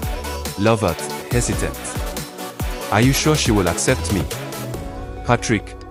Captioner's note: hesitant